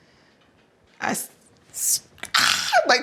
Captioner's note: screaming